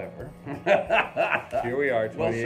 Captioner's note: both laugh